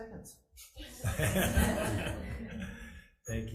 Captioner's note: crowd laughing